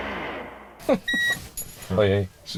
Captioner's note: car beeps